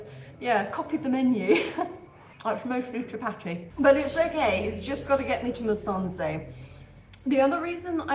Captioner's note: laughing